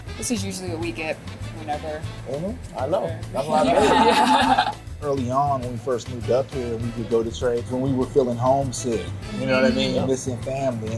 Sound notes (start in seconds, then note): 3.4 laughs